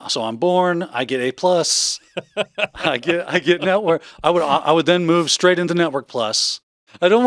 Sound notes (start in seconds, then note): 1.9 laughing